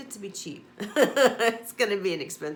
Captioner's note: laughs